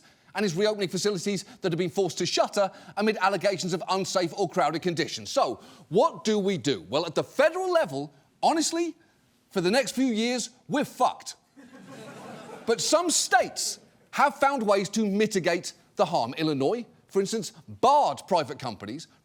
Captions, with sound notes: and is reopening facilities that have been forced to shutter amid allegations of unsafe or crowded conditions. So, what do we do? Well, at the federal level, honestly, for the next few years, we're fucked. (AUDIENCE LAUGHS SOFTLY) But some states have found ways to mitigate the harm. Illinois, for instance, barred private companies